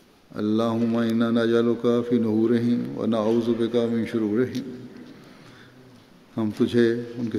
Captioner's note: Arabic